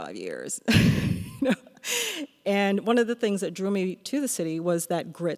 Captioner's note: laughs